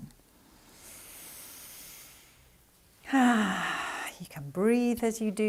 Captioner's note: breathing gently